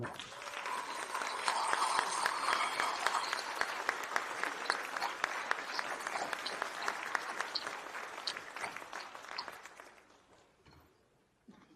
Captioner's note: applause